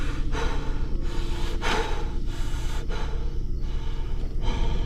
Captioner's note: Scott gasping